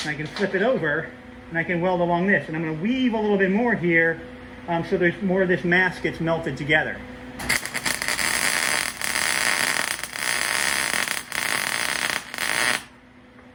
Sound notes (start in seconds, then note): 7.4 buzzing